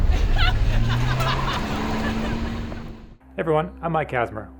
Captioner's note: men and women laughing